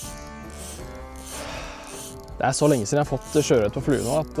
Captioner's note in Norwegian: snøfter